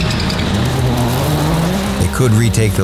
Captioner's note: car engine revving